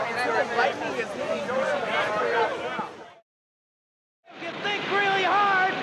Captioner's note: group chattering